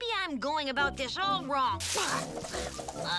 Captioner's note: bushes rustle